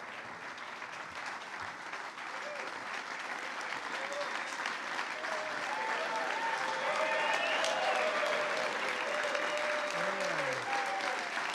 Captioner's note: applause